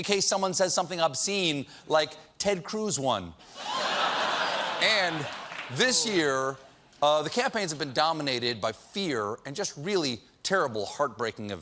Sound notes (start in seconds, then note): 3.6 laughter